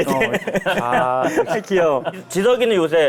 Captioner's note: in a chilling voice